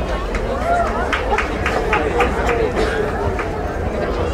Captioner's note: crowd applauding